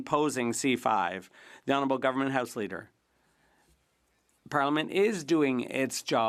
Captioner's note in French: voix de l'interprète